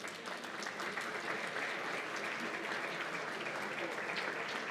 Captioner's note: applause